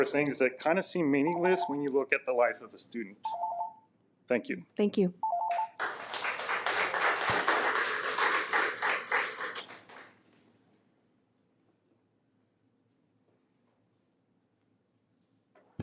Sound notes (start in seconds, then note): 5.7 audience applauds